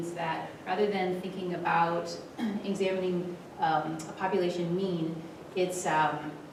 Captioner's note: cough